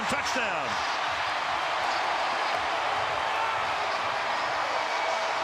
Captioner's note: crowd cheering